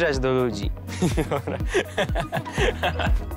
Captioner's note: laughs